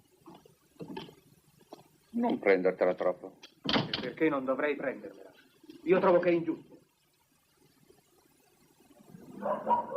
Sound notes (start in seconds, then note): 3.6 door closes